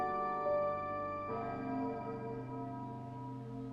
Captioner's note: bell tolling